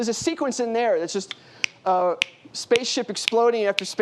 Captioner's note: snaps fingers